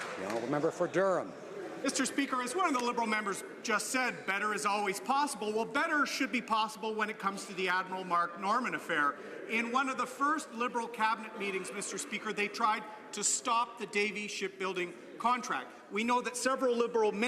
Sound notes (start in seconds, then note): 1.5 some Applause